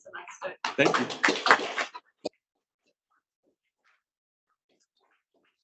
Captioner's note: students applauding